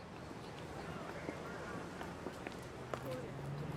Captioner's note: wind blowing, distant voices and footsteps